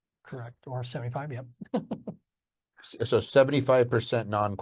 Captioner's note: chuckles